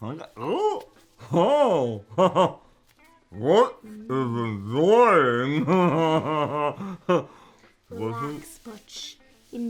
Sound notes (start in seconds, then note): 0.6 Butch yelps; 2.0 Butch chuckles; 5.3 Butch mumbles and repeats Butch is enjoyingchuckles